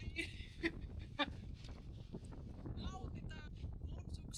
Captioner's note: sound of wind